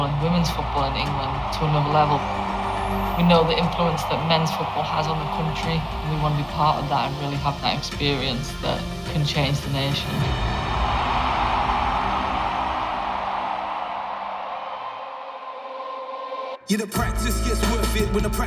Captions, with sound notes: and women's football in England to another level. We know the influence that men's football has on the country and we want to be part of that and really have that experience that can change the nation. (cheers) (upbeat music)